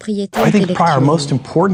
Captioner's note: whoosh